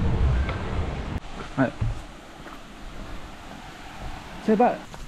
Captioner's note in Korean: 해변이 근처인듯 파도소리가 들림